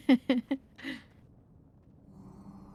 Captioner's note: giggles